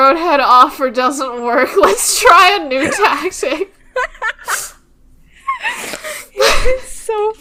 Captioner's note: both laughing; laughing